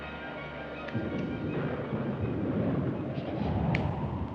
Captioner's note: thunder